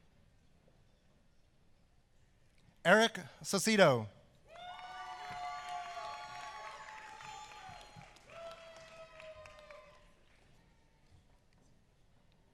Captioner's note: applause